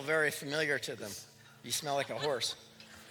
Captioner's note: laughter